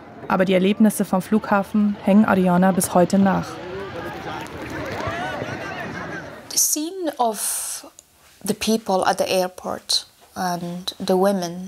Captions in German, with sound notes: Aber die Erlebnisse vom Flughafen hängen Aryana bis heute nach. (Aufgeregtes Stimmengewirr)